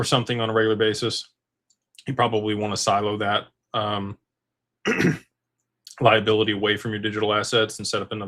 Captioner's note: clears throat